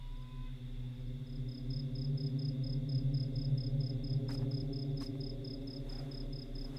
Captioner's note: crickets chirping; tense wind blowing